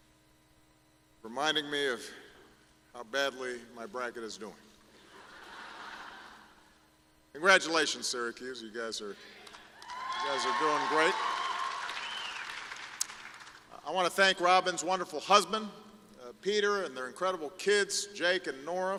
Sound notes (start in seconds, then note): 5.0 laughter; 9.8 applause